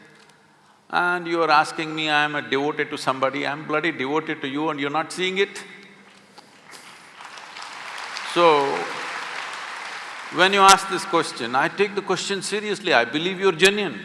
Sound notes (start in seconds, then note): 6.6 applause; 6.8 laughs